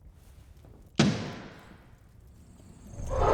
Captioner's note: distant gunshot